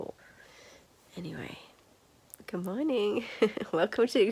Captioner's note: laughs